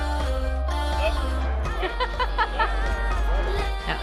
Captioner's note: Kendall laughs